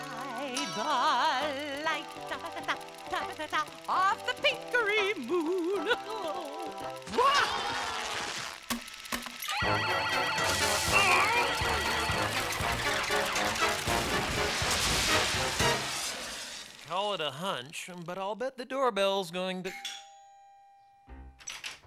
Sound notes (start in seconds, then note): 7.6 yelps; 10.9 groaning; 19.7 doorbell rings